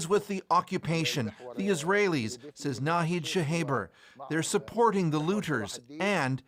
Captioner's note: speaking alternate language